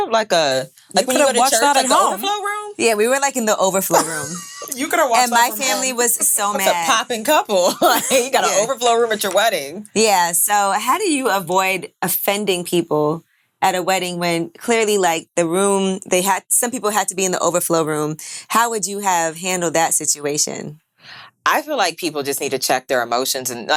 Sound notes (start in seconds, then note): 3.8 laughing